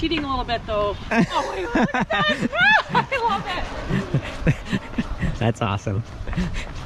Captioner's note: laughs